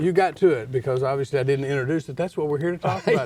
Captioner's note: laughs